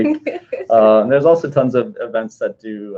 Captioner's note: laughing